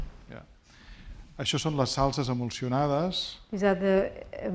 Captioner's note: speaking spanish